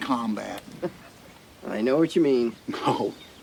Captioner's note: Bradley chuckles